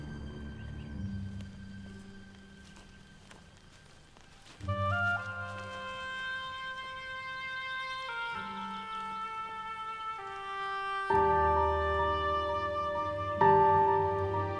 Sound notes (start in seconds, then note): 1.6 birds chirping; 1.6 dramatic music